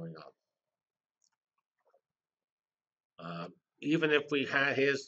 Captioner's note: pause